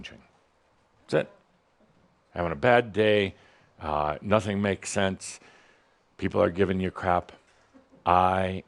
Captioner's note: some chuckles